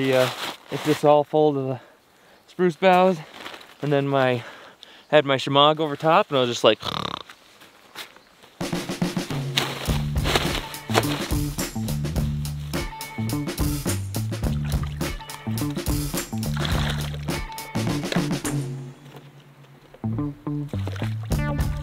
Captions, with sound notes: It's just all full of spruce boughs and then I had my shimong over top and I was just like (snoring) (upbeat music)